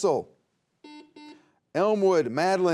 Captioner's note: buzzer beeps